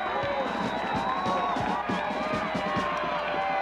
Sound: players groaning; players thudding; whistle shrills

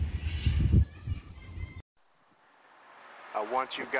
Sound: kids laughing

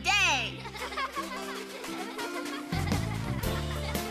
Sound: kids Laughing; upbeat Music

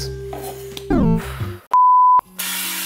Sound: exhaling

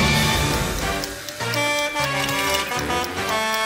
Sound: Blaze honking

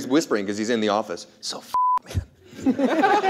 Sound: beep; everyone laughs

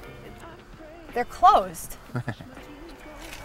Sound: laughs

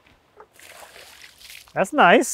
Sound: water sloshes

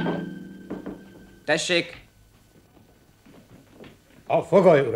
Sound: knock on door

